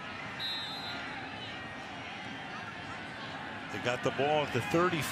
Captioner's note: whistle